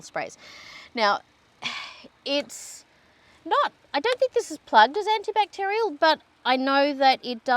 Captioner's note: sighs